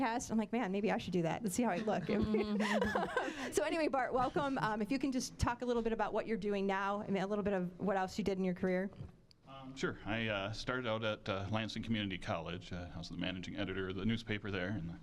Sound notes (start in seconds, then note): 1.8 laughing